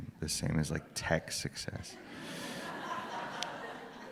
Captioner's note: laughter